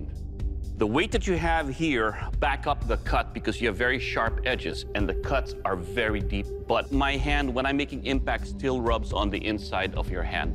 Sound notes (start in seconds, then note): none